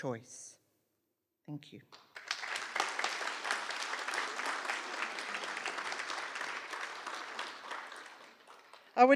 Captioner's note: applause